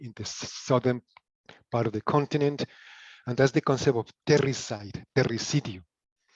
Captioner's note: in Spanish